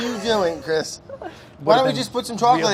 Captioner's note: chuckles